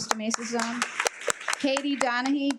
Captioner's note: attendees applaud